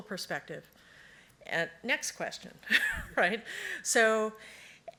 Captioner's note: laughs